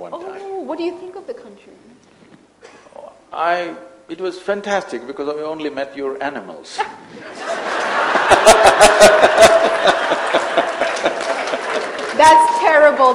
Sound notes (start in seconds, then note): 7.2 laughter